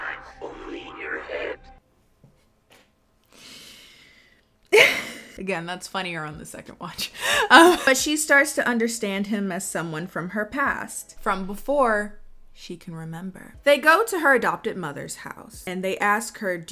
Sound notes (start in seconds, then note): 3.4 laughs